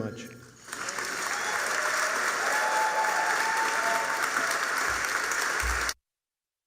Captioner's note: applause